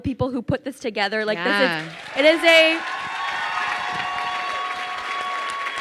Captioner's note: crowd cheers and applauds